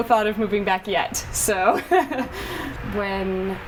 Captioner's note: laughs